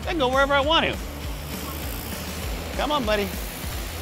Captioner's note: buzzing